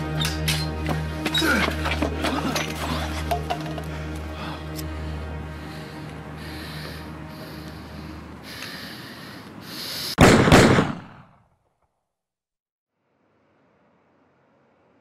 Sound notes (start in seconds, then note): 1.4 Izzo grunting; 3.6 ominous music; 10.2 gun bangs